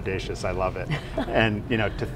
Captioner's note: interviewer laughs